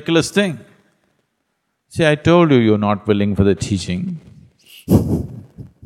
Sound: laughs

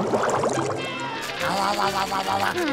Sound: chomping

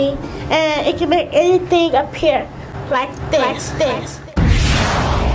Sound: echoes

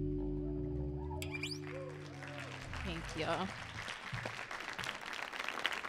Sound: audience applauding

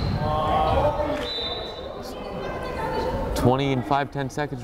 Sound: whistle blows

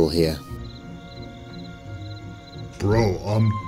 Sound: crickets

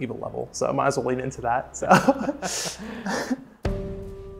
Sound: laughing

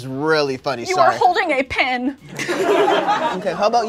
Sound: laughter

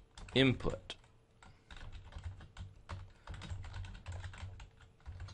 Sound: typing

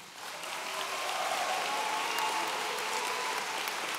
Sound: audience cheering

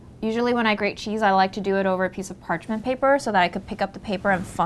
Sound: none

